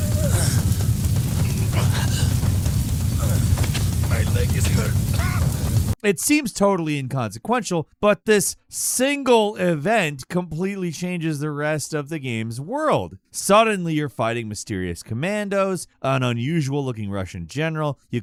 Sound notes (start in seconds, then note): 0.2 scientist grunting; 5.1 coughs